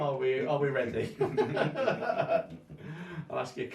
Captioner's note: both men laugh